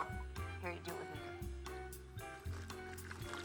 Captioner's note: slurping